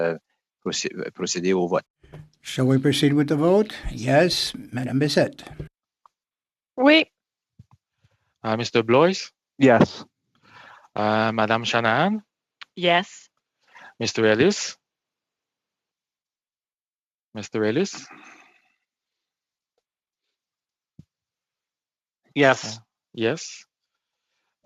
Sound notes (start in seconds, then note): 2.7 speaking French